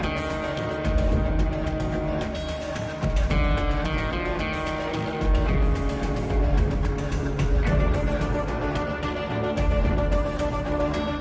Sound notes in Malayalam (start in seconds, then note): none